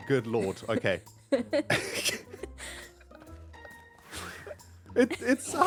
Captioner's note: laughter